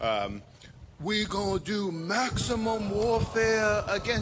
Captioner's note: imitating hakeem